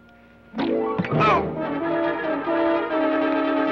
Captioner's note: thud; Sheriff groans; dramatic orchestral music